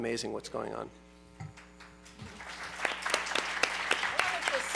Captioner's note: applause